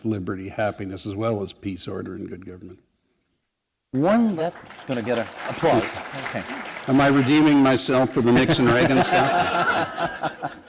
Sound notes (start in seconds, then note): 7.4 applause